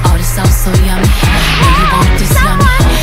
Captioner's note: splash!!